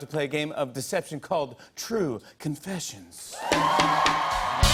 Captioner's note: cheers and applause